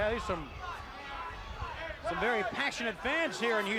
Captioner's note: crowd chatter